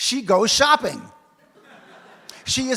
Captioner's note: audience laughs